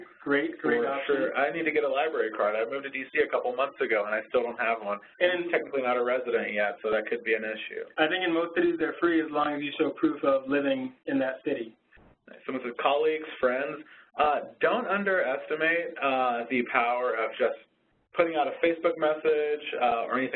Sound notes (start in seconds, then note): 1.5 voiceover; 7.9 voiceover; 12.4 voiceover